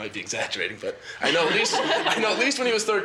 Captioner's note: several students laugh